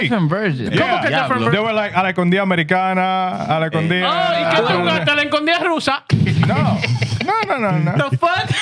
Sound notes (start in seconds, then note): 2.5 speaking Foreign Language